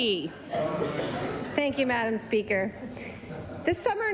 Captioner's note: laughter